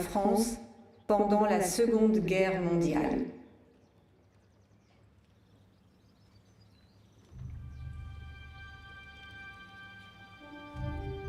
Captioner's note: speaking french